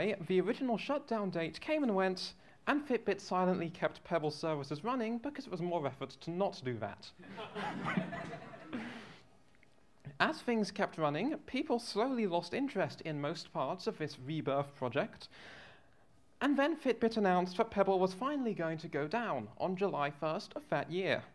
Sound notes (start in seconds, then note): 7.2 laughter